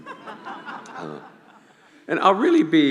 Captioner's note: laughing